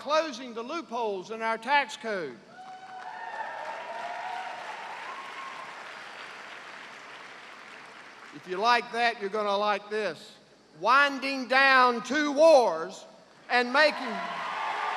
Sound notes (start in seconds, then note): 2.5 cheers and applause